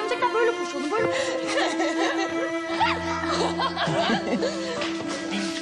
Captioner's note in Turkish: Gülme